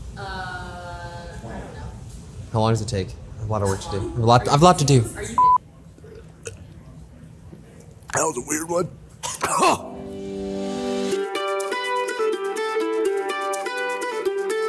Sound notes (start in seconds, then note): 5.4 beep; 9.2 coughs; 11.9 upbeat music